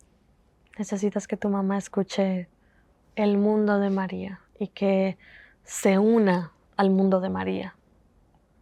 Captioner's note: Spanish